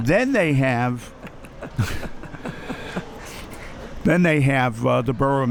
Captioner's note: laughing